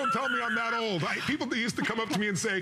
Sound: laughter

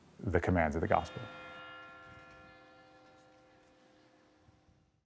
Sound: church bells ring

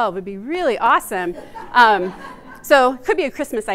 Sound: audience laughs

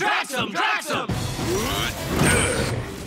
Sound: grunting

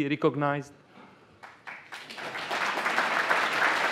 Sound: applause

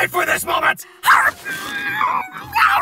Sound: bowl Eating Sounds

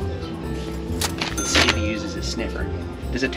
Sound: register dings

